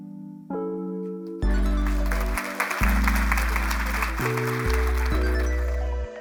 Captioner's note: applause